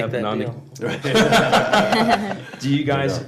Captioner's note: laughter